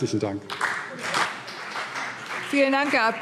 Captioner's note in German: Beifall CDU und BÜNDNIS 90/DIE GRÜNEN